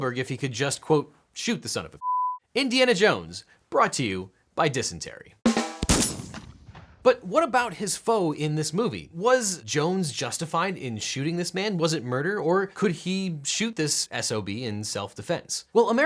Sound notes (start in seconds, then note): 5.4 drum music; 5.6 gunshot